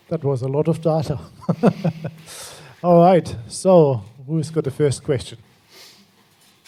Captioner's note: laughs